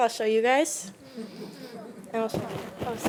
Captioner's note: attendees chuckling